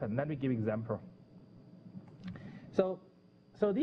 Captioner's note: pause